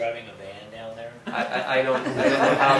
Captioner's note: laughter